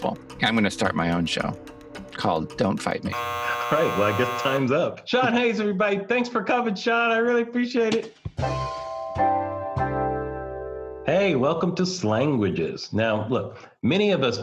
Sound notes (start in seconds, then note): 3.1 buzzer; 8.4 smooth music